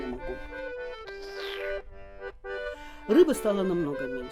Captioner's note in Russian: прихлебывает чай